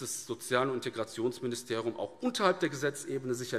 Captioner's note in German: none